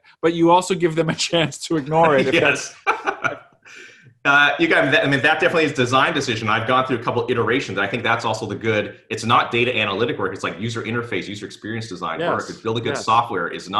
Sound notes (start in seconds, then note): 1.8 laughs; 1.8 giggling